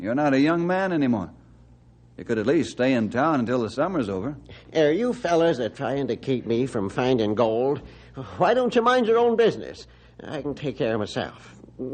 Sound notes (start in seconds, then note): none